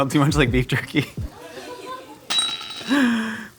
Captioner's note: laughing